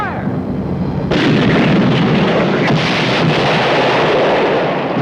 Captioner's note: cannon booming; explosion